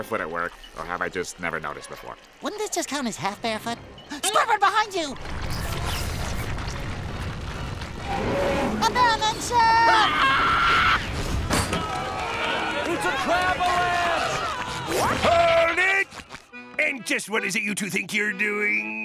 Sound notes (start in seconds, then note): 3.3 gasps; 9.6 screaming